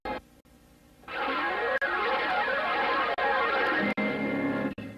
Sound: swirling sounds resuming

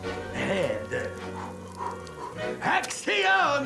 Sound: panting

